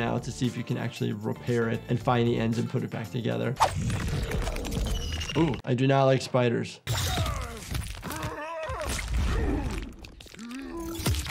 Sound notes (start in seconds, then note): 8.0 fighter groans